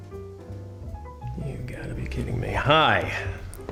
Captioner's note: muttering